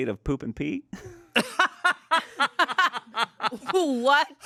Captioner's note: everyone laughs